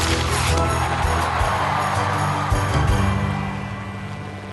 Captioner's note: cheering crowd